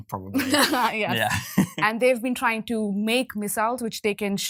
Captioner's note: laughs